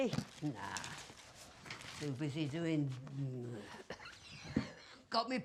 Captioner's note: coughs